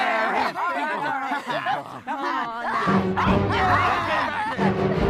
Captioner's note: overlapping chatter; suspenseful orchestral music